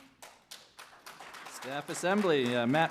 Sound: applause

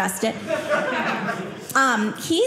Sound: audience laughing

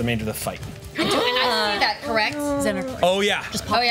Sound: groups gasps

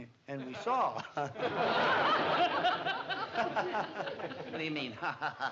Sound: laughing

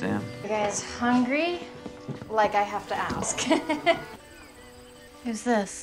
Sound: laughs

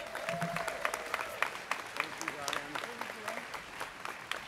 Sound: students clapping

